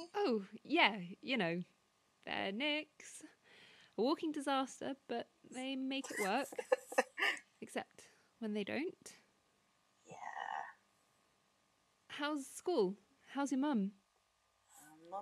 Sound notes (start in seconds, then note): 6.0 laughs